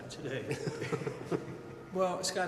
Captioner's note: chuckles